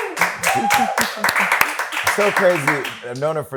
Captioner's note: clapping